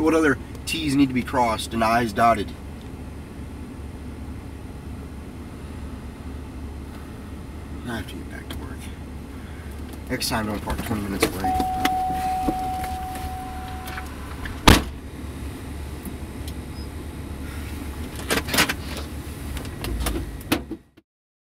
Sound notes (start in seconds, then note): 11.2 car door opens and closes; 17.9 car noises